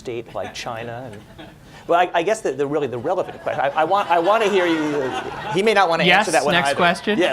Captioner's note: laughter